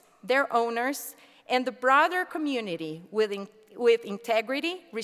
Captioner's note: none